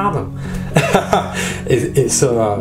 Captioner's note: laughing